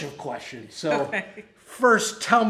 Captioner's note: laughs